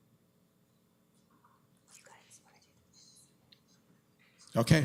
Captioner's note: whispering